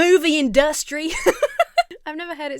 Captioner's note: laughs